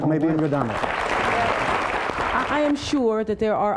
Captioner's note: applause